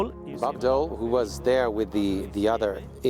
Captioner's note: voiceover